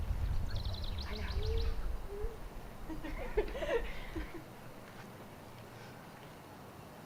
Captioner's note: laughter